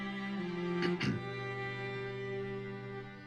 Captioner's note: clears throat